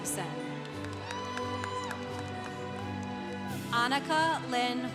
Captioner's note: congregation cheering